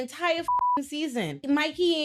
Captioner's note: beep